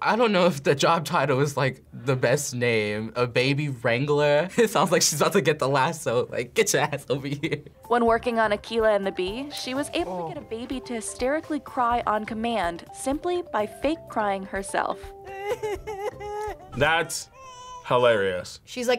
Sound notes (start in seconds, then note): 7.6 laughs; 15.2 cries